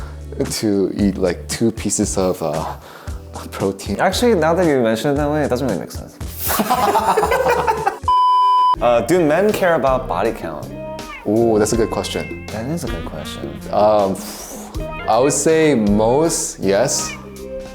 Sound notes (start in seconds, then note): 6.4 both laugh; 8.0 electronic bleep